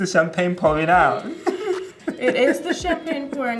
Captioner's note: laughing